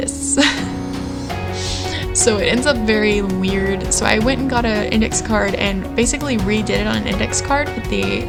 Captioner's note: laughter